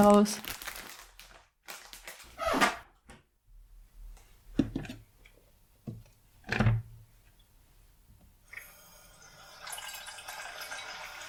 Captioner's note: cupboard door squeaks, paper rustles, water poured in a pot